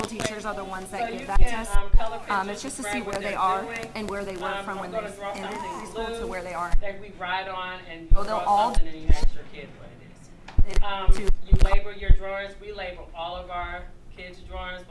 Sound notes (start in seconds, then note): 10.4 static crackling